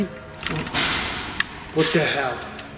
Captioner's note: bang